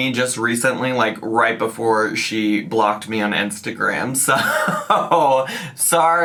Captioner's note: laughs